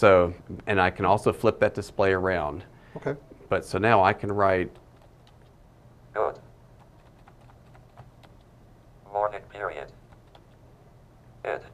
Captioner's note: device speaking